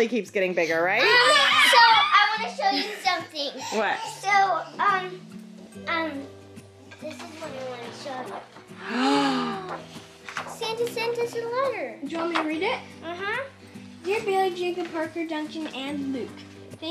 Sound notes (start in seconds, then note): 1.1 screaming